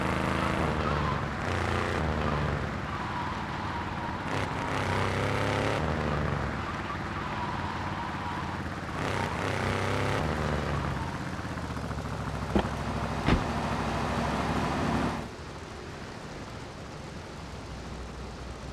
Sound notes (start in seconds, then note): 4.8 engine revving